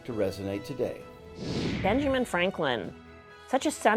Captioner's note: computer whooshing